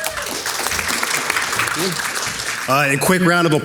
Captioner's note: audience clapping